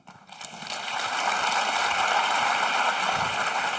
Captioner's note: applause